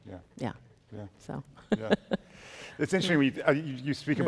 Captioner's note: chuckles